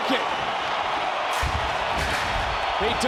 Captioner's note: crowd cheers